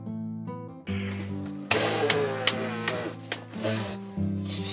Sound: sound made to chase goat cubs

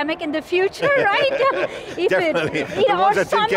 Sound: laughs

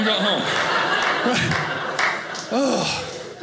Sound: audience laughing

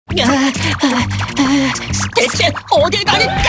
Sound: panting

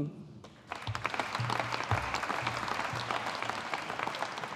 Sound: audience applauding

